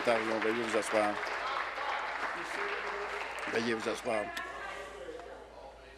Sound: applause

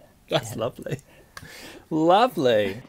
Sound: laughs

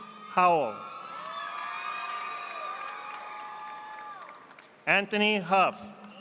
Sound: audience applauding

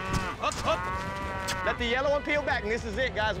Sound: cows mooing

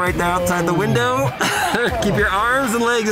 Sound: presenter laughs

